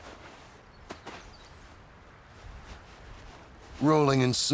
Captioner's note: snow rustling; birds chirping